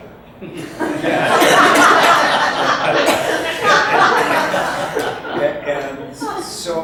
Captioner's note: audience laughs